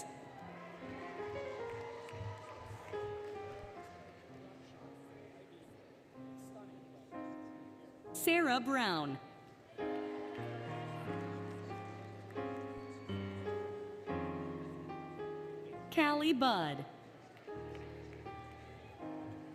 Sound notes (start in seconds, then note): 0.0 applause, Cheering, Music; 9.7 applause, Cheering, Music; 16.9 applause, Music